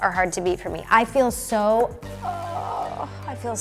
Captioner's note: dramatic music; groans